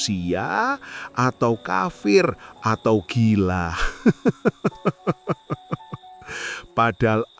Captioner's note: laughs